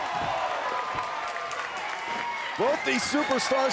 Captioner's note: crowd cheering and clapping